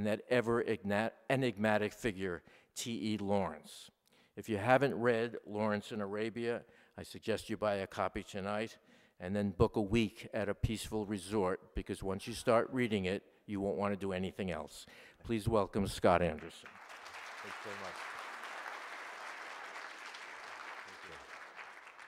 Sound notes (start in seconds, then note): 16.3 applause